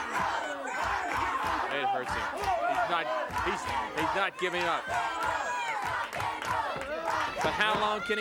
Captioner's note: applause